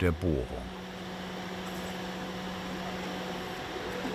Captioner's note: continuous whirring